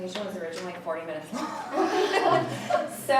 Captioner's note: laughs; audience laughing